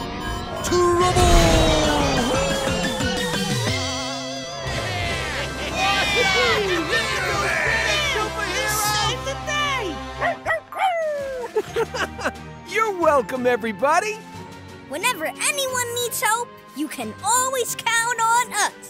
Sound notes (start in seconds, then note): 9.8 barking; 10.2 giggles